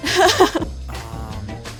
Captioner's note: laughs